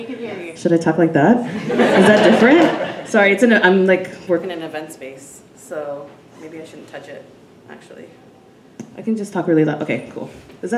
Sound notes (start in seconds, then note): 1.4 audience laughing